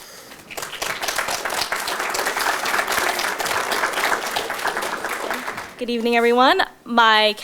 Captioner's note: audience Applause